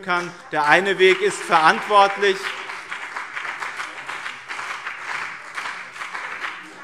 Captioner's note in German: Beifall BÜNDNIS 90/DIE GRÜNEN und CDU